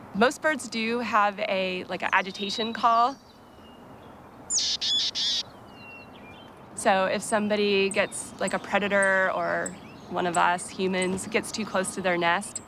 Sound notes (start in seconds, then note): 4.5 bird calls